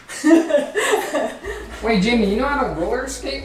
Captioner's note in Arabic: أمي تضحك